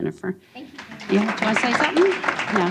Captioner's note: applause